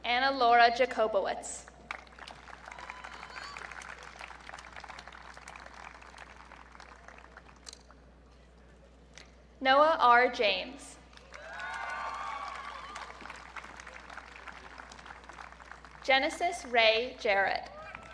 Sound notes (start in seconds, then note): 2.4 audience cheering; 11.2 audience cheering